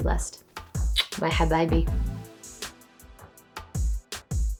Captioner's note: lips clicking; speaking foreign language